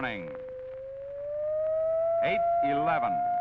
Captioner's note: high pitched alarm